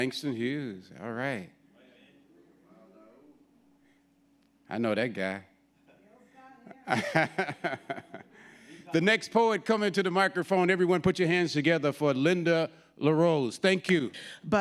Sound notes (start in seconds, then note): 2.0 audience speaking indistinctly; 6.7 laughing